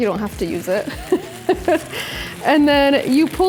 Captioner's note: laughs